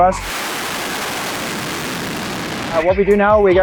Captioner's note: engine roaring